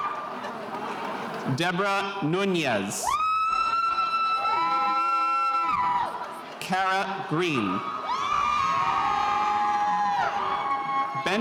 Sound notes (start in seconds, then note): 3.0 spectators cheering